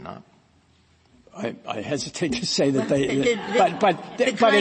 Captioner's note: laughter